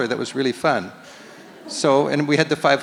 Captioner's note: audience laughs